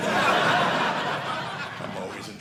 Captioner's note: audience laughing